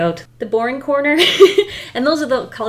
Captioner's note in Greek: Γέλια